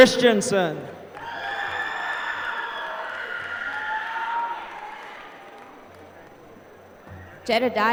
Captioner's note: applause